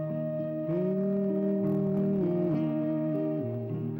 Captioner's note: humming